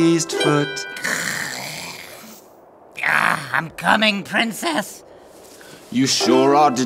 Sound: gags louder

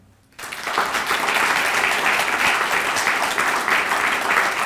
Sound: audience applauding

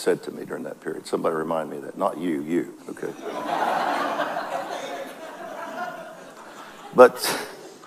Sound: audience laughs

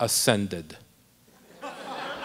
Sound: laughter

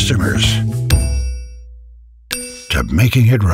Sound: dings

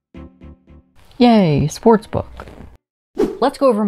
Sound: whoosh

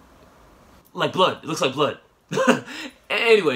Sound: laughs awkwardly

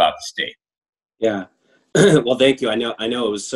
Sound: clears throat

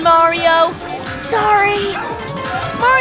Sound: whispers

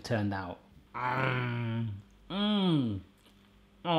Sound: happy sounds

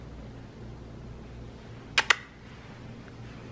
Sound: makes kiss sound

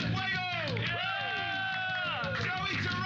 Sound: cheers and applause

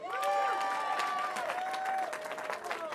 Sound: cheering

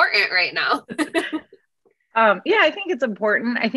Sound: laughs

